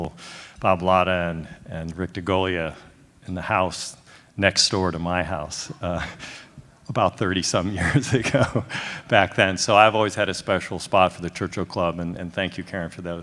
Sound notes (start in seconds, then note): 7.6 laughs